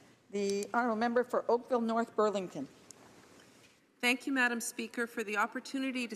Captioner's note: speaking French